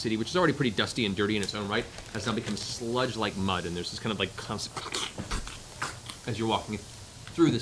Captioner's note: squelching